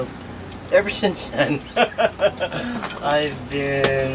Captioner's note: nervous laughter